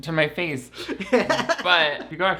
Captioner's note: laughs